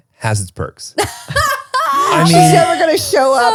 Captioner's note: laughing